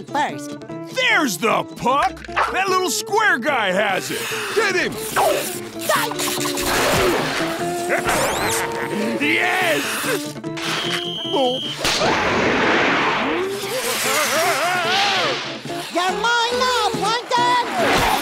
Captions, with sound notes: There's the puck. That little square guy has it. Get 'em. [yelps] [laughing] Yes! [whistle blowing] Whoa oh oh! You're mine now, Plankton!